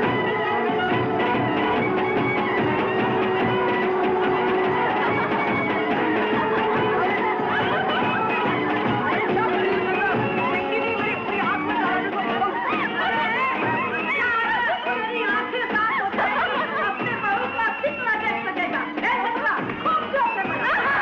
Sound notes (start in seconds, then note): 4.9 laughing